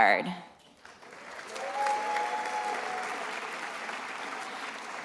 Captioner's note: attendees applauding